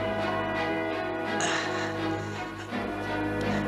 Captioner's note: grunting